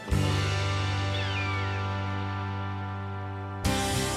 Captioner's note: bird caws